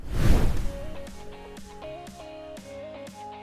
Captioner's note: air whooshes; bright music